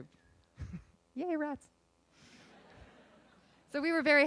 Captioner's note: laughing